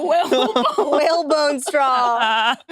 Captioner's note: laughs